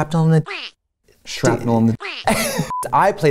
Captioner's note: laughing